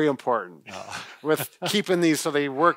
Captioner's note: laughs